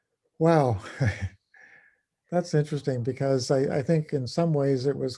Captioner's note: laugh